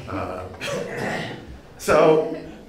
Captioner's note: audience laughing